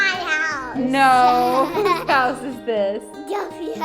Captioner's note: little girl laughing